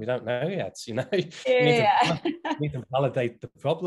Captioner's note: both laughing